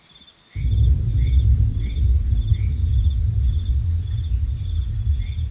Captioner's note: loud thundering noise